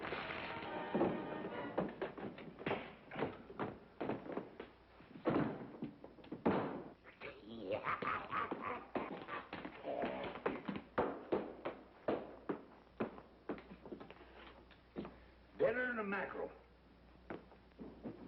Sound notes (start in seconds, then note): 0.7 scream; 7.2 chuckles